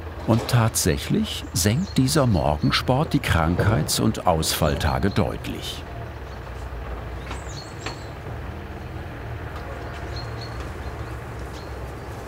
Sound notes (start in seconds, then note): 5.7 an engine is running in the distance